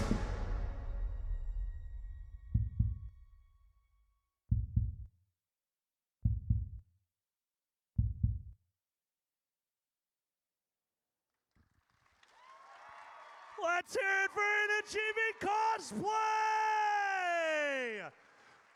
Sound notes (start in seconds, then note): 2.8 heartbeat; 12.2 audience cheers